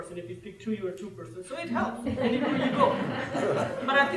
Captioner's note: laughter